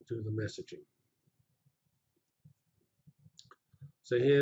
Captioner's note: pause